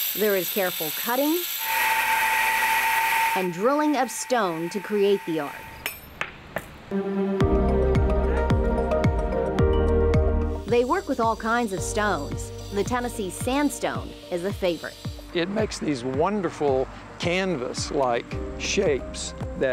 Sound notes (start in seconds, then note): 1.7 drill whirring; 6.7 gentle music